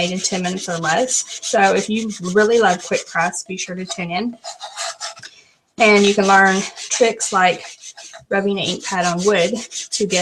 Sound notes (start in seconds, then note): none